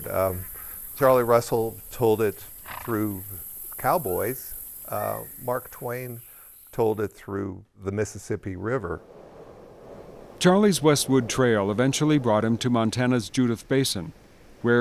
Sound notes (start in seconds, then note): 10.4 voiceover